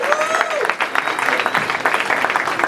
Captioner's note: applause